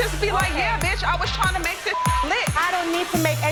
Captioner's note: beep